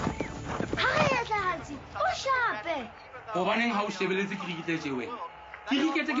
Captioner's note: hoofbeats galloping; speaking foreign language